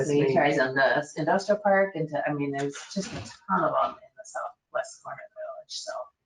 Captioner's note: speaking faintly